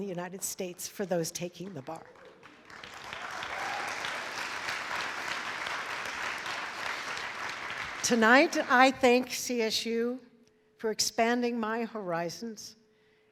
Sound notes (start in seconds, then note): 2.0 audience applauds